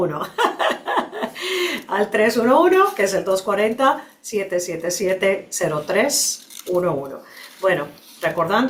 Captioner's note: risas